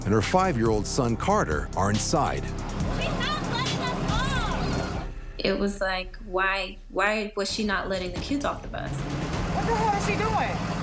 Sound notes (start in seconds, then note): 3.0 child speaking